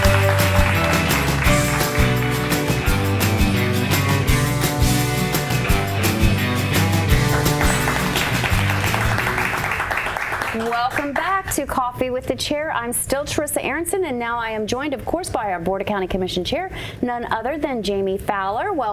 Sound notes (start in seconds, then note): 0.0 upbeat music; 9.5 audience applauding